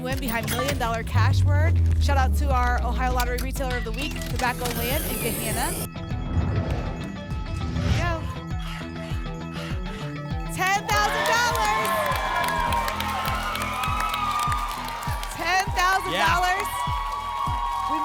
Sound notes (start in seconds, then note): 6.3 alarms; 6.3 whoosh; 8.8 alarms; 8.8 scratching sounds; 10.6 applause and cheering